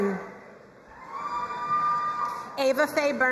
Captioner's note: crowd cheering and applauding